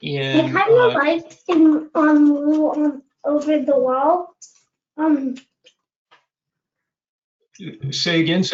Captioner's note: child's voice